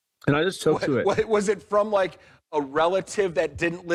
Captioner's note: laughs